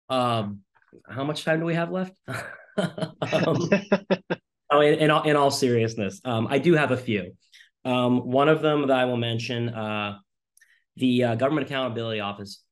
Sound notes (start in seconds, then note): 2.3 laughing